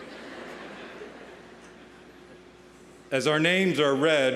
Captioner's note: audience laughing